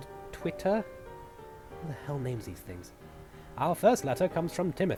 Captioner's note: to himself